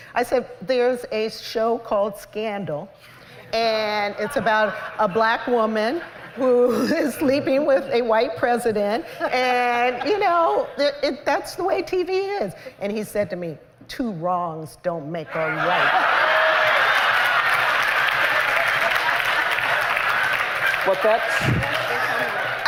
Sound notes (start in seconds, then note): 15.4 laughter; 15.8 cheers and applause